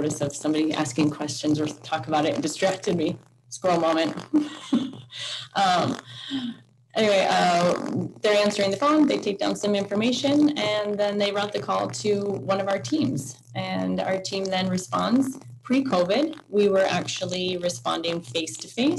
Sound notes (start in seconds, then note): 4.3 laughs